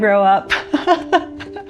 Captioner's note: laughs